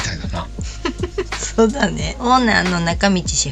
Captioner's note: laughs